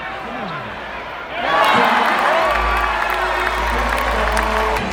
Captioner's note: cheers